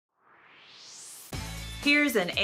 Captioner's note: swoosh